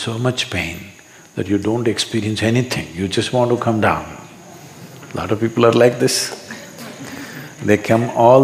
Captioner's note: few laugh